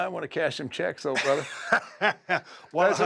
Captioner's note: laugh